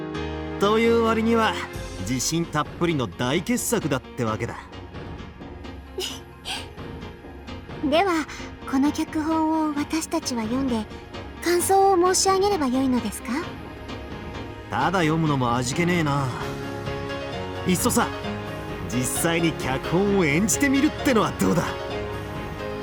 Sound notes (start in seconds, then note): 6.0 giggle